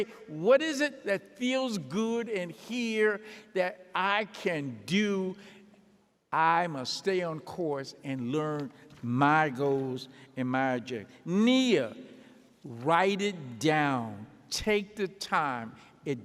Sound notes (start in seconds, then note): none